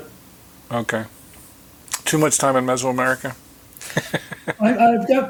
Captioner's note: chuckling